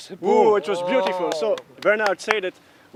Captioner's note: applause